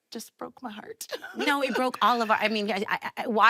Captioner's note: Enuka laughing